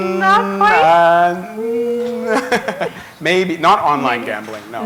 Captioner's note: chuckle